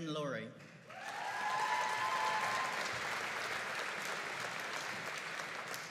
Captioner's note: audience cheering and applauding